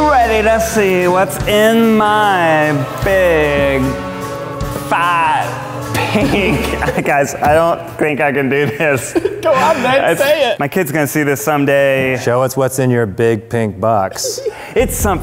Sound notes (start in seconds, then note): 5.9 laughs; 14.1 laughs